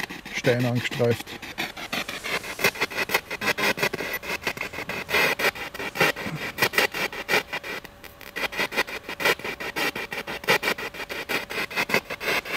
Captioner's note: radio noise from the spirit box